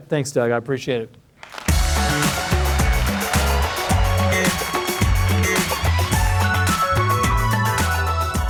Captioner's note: applause - music playing